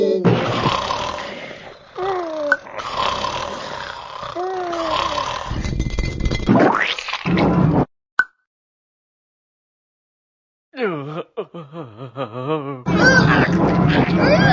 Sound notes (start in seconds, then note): 0.4 snoring; 6.8 squish